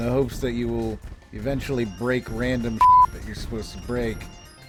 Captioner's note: beep